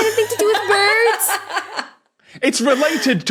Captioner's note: laughs uproariously